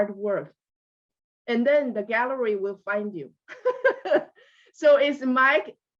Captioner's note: laughs